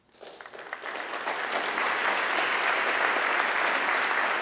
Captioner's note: audience clapping